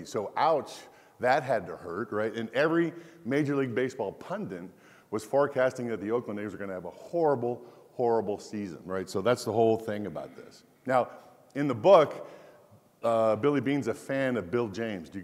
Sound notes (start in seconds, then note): none